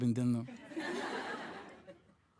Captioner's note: audience laughing